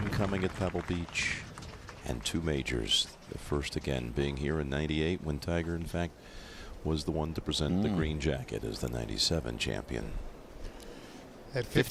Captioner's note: applause